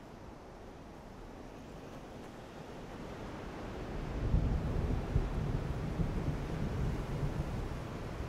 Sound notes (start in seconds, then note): 4.3 thunder rumbles, wind blows